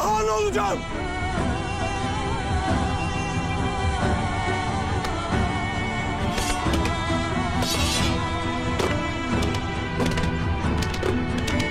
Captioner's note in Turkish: Kılıç ve Tak Tak Sesleri